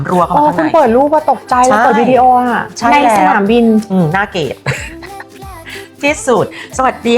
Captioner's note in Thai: เสียงหัวเราะ